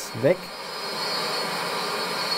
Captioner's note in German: Schleifgeräusche